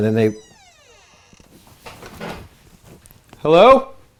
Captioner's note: door creaks